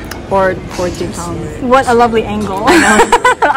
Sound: laughs

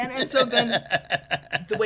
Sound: laughing

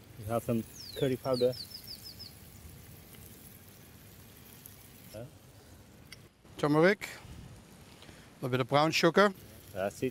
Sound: light sizzling

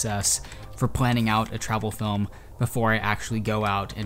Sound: keyboard clicking

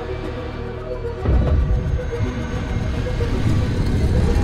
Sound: gate closes

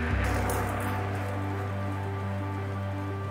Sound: bike rattling; ambient music

